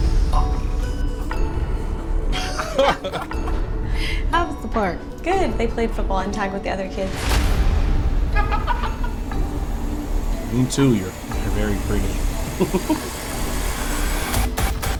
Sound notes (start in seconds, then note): 2.4 friends laughing; 7.6 tense menacing music; 8.2 friends laughing; 13.0 dramatic menacing music